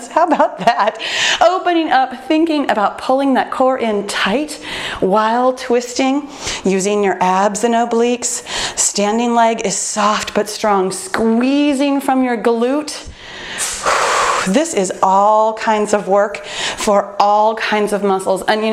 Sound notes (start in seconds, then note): 13.1 exhales